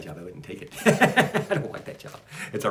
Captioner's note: laughs